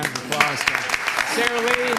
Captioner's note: applause